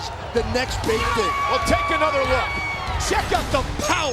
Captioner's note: fan screaming